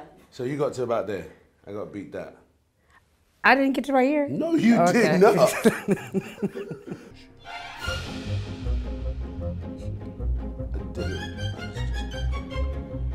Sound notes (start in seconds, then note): 4.8 Regina laughing; 7.6 upbeat music